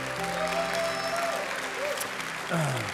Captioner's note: applause